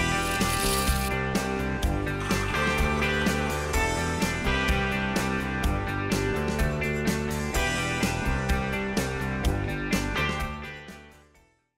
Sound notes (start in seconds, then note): 0.3 bright music; 2.1 coffee machine gulps